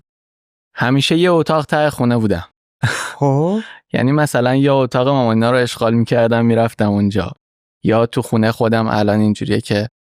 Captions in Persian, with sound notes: همیشه یه اتاق ته خونه بودم. (خنده) یعنی مثلاً یا اتاق مامان این‌ها رو اشغال می‌کردم می‌رفتم اون‌جا یا توی خونه‌ی خودم الان این‌جوریه که